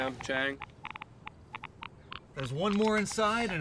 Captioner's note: monitor clicking